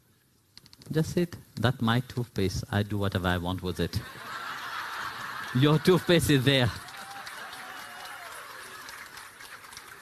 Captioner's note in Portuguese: risos e aplausos